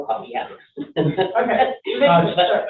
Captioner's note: chuckling